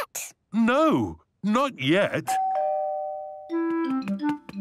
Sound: doorbell rings

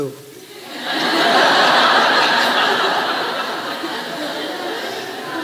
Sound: crowd laughs

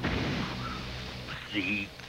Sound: crash

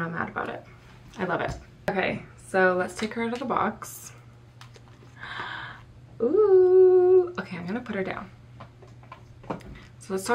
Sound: gasps

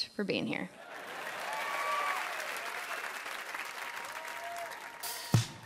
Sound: audience applauding

